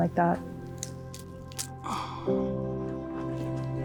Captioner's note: fruit cracking open; sighs; calming music